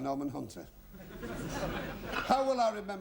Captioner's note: laughter